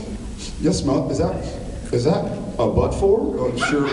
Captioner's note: sniff, sniff; sniff